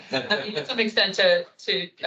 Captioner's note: attendees laughing